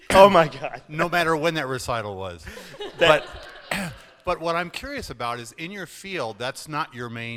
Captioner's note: laughter